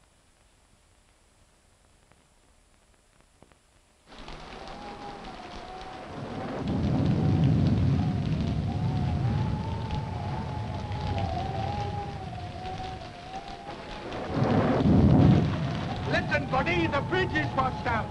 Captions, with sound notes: (wind howling) (thunder rumbling) - Listen buddy, the bridge is washed out.